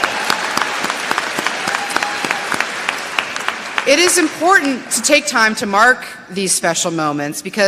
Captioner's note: applause